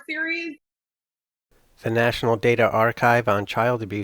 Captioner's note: voiceover